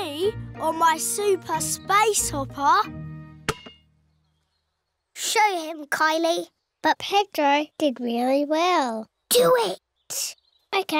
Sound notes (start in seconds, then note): none